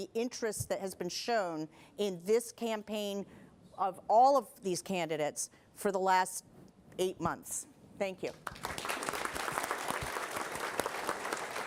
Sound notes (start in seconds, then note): 6.8 applause